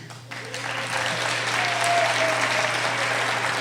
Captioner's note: applauding